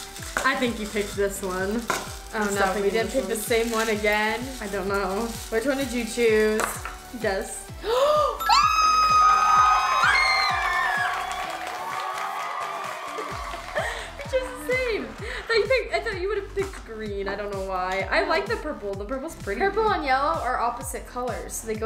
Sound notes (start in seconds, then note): 7.8 gasps, then screams; 9.1 canned applause; 10.3 screams; 13.3 laughs